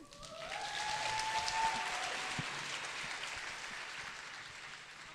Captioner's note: audience applauds